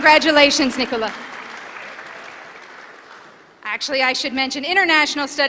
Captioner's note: applause